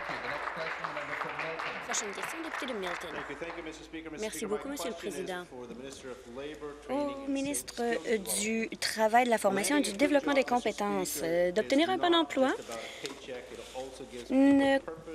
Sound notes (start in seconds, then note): 3.2 applause